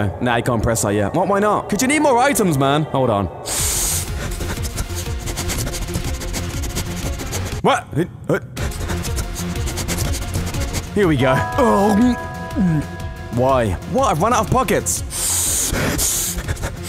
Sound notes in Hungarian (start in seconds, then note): 3.4 szagolgat mint egy kutya